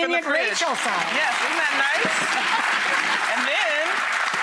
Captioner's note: clapping